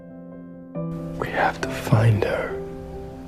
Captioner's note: voiceover